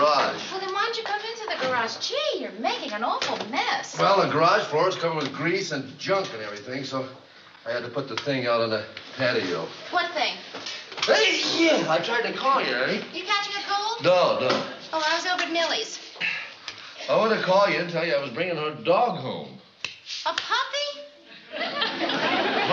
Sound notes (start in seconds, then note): 11.0 sneezes